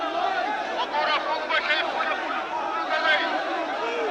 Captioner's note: captain shouts